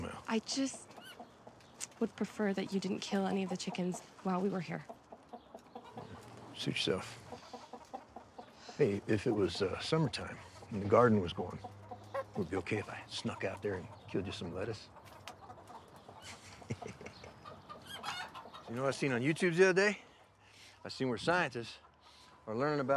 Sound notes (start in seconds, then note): 16.2 Abe chuckles; 16.5 chickens clucking